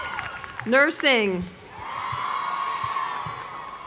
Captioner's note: applause